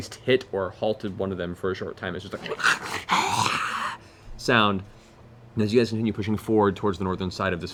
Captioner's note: snarl